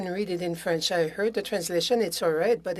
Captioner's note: speaking French